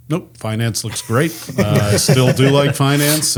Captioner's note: group laughs